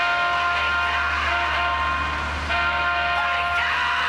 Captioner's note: honks horn